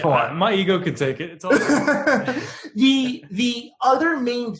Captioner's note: laughing